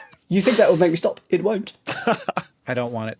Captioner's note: group laughing; laughs